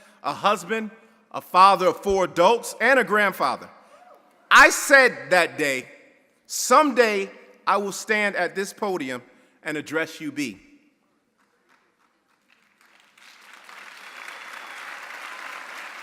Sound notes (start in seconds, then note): 11.4 audience applauding